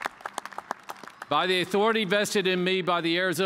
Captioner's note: cheers and applause